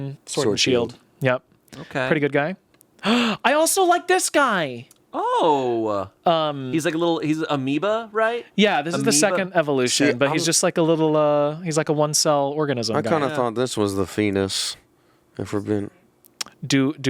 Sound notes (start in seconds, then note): 3.0 gasps